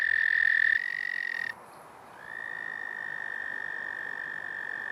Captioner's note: male toads trilling